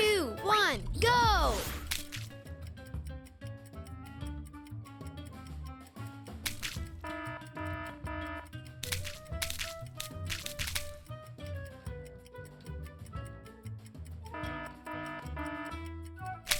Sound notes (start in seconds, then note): 1.5 paint splattering; 3.2 clock ticking; 6.6 paint splattering and alarm ringing; 8.8 paint splattering; 14.3 alarm ringing